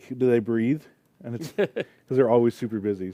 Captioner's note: laughter